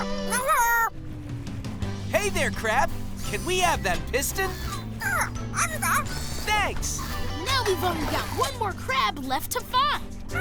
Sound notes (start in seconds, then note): 5.1 squeaking